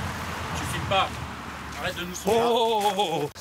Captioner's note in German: Er spricht französisch